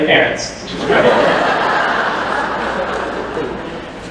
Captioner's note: laughter